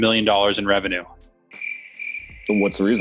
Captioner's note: crickets chirping